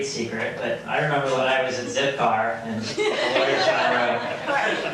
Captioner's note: laughing